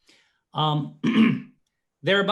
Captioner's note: throat clearing